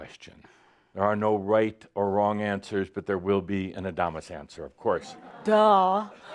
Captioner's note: laughter